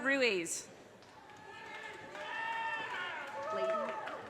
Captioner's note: audience cheers and applause